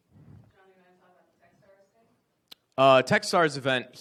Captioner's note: speaking away from mic